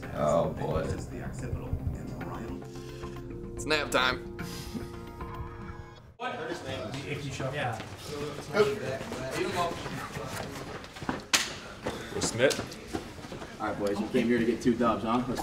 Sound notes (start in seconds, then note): 0.0 television; 8.2 team chattering; 11.3 hand smacking